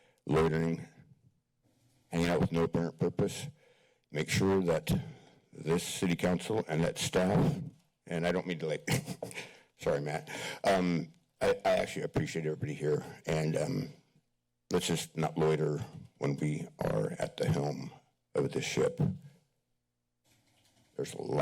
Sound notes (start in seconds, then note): 8.8 chuckles; 19.3 pause